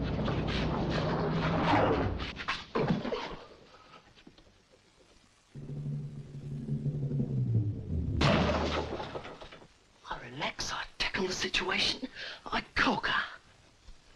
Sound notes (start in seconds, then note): 5.6 drum rolls; 8.2 thief thuds